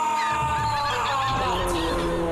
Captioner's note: birds squawking